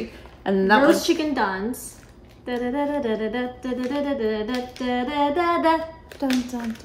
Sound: hums song; hums music

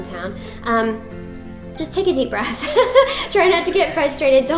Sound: laughs

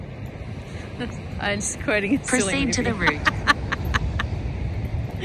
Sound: cackles

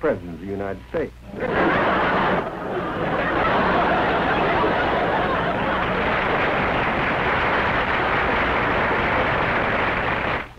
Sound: laughter, then applause

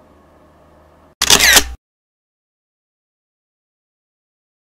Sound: camera shutters

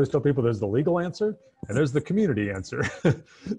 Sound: laughs

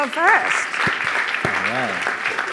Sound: audience applauding

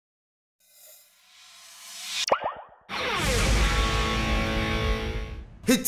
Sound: ping; whooshing sound

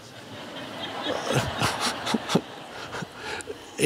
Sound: crowd laughs

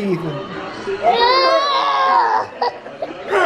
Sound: yells; grunts

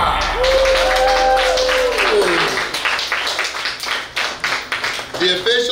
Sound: cheering & Clapping

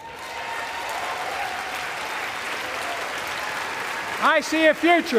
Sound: applause

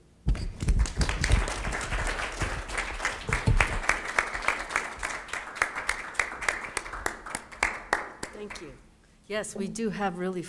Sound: applause

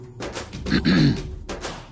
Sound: clears throat

